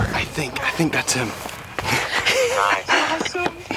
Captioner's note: laughs